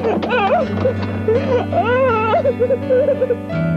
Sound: thud; David crying

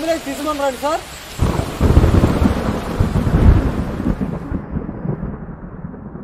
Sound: thunder rumbling

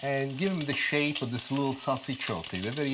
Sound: foreign language

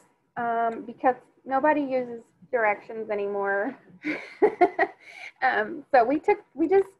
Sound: laughs

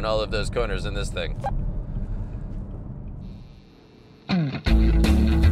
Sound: beep; upbeat music

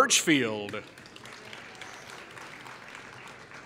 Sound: applause

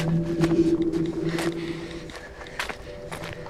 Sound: panting

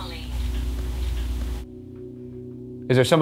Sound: object creaks

